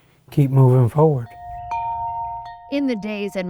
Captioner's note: bells chiming